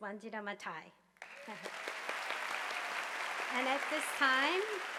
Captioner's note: audience applauding